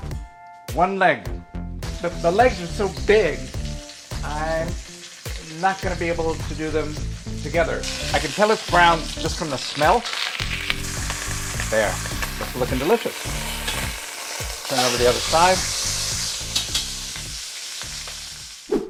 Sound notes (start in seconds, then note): 3.8 oil sizzling; 10.4 oil sizzling; 15.7 oil sizzling